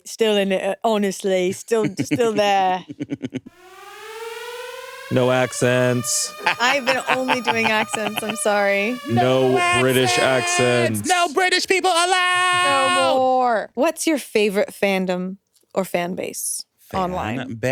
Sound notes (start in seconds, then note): 3.5 alarm blaring